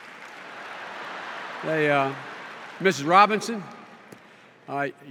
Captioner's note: laughter and applause